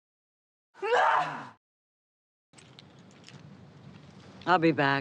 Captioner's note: grunts